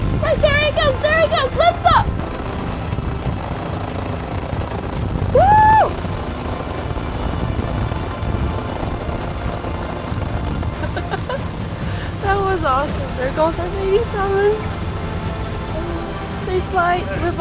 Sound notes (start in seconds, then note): 10.6 laugh